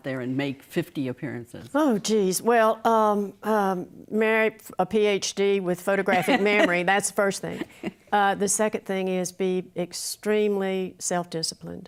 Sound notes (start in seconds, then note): 7.5 laughing